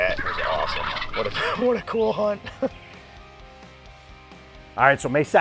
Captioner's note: laughs